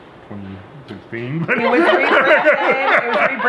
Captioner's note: laughing